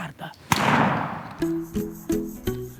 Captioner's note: gunshot